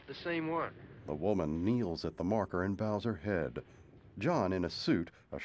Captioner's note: thunder rumbling in distance